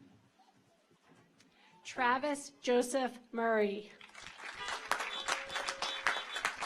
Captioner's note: audience applauds; car horns honking